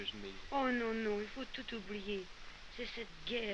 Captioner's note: continues speaking french